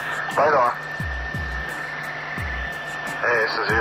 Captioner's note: radio static crackling